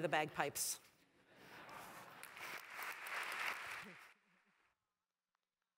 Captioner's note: applause